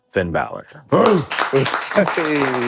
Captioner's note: Finn laughing; barking and clapping